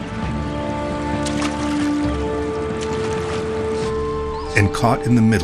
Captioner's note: water splashing; solemn music